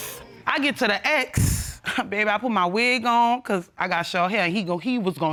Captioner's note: scoffs